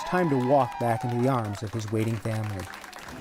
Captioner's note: cheers and applause